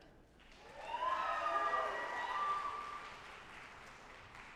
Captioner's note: audience applauding